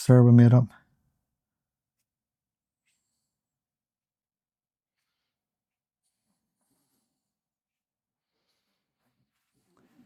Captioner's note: silence